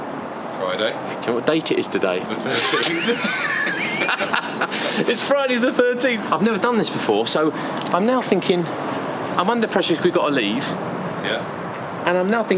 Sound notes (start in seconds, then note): 2.3 laughs